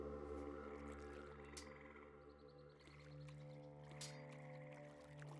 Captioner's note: birds chirping